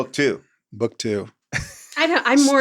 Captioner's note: laughs